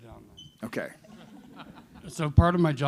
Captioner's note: laughter